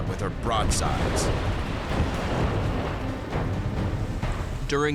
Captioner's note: explosions